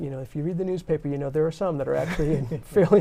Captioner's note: laughter